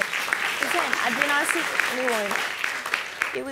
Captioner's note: audience clapping